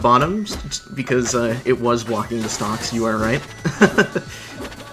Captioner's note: laughs